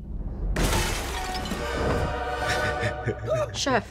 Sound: tense music; laughs

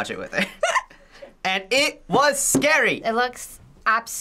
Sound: laughs

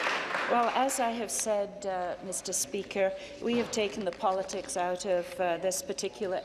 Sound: applause

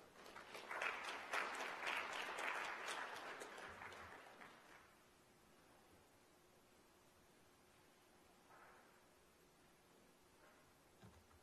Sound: applause

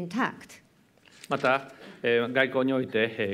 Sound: speaking japanese

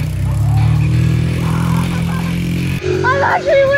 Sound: laughs

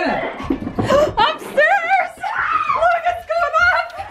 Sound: gasps

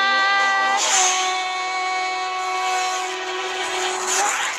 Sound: slice; all popping

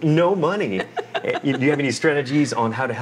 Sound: laughs

